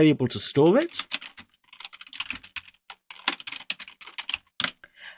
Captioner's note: keyboard typing